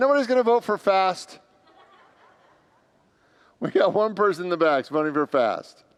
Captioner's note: congregants laugh